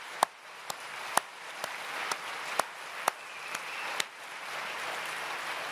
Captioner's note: applause